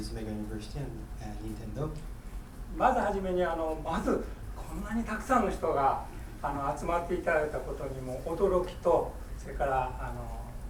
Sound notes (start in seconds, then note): 2.8 speaking in foreign language